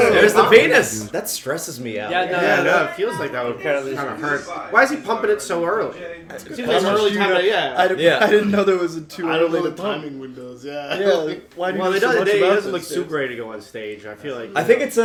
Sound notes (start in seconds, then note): 6.5 audible confusion